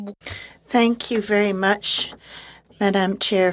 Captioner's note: speaking French